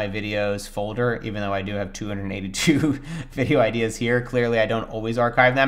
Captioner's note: laughs